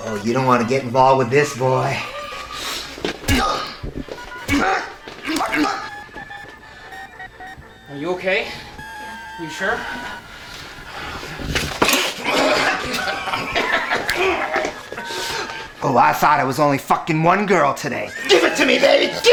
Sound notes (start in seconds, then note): 3.2 groaning; 11.0 laughing; 11.4 groaning